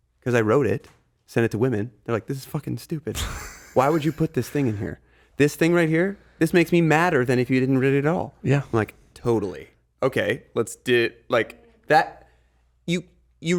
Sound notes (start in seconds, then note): 3.2 Justin chuckling